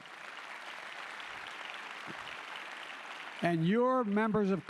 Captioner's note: applause